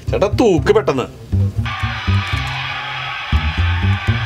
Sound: TV sounds

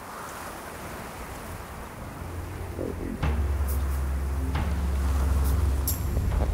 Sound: wind gusting; wind gusts

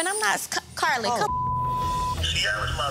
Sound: beep

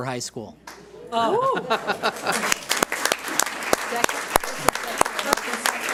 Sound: audience cheers and applauds

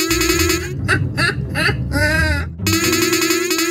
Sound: laughing

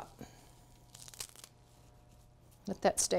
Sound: cilantro crunching

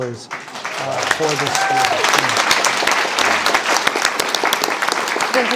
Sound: audience applauding

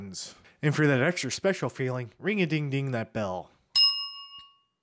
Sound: rings his happy face bell

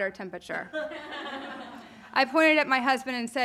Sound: audience laughing

